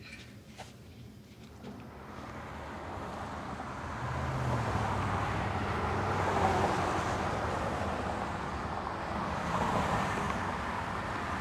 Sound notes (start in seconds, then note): 0.1 Sue scoffs; 3.2 traffic zooming